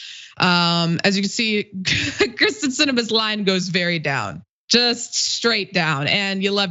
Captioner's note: laugh